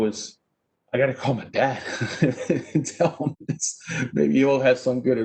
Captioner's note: laughs